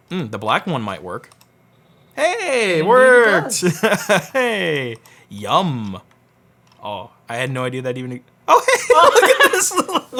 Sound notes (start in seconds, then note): 4.7 laughs